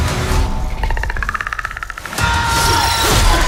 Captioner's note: Predator clicking; screaming